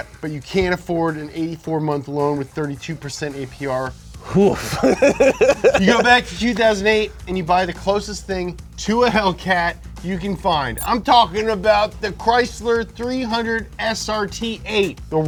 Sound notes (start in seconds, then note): 4.3 reacts and laugh